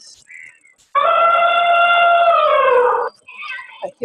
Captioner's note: elephant trumpeting